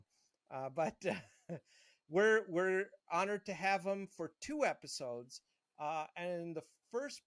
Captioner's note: laughing